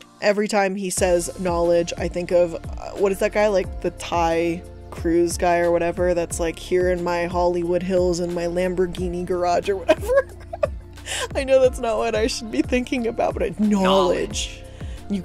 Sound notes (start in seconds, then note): 9.7 laughs